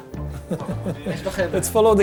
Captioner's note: laughing